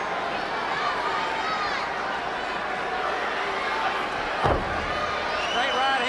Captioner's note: crowd chatter